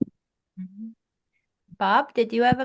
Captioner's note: French